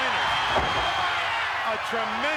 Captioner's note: body thudding